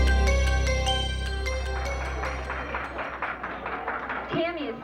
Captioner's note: applause